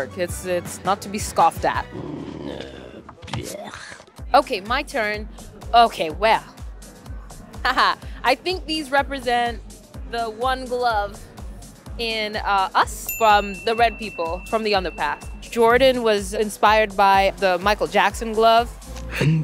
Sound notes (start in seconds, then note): 11.3 bell dings; 13.0 bell dings